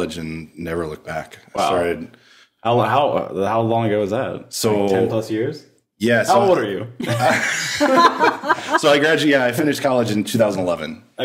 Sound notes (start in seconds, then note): 7.0 laughing